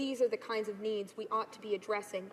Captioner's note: none